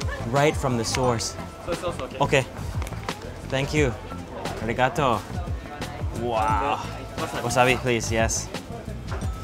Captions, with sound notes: Right from the source, okay, thank you. (speaking in Japanese) Wasabi please, yes.